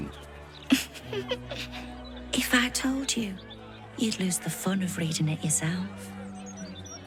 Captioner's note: chuckles